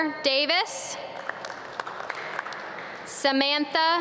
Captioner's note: audience clap